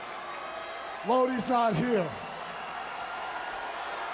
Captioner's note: crowd chatter